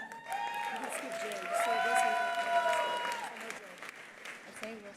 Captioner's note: attendees cheering; attendees applauding